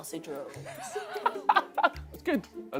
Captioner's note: laughs